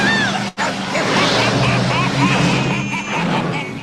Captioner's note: driver laughing